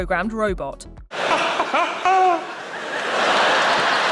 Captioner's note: laughing